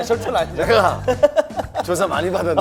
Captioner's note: laughing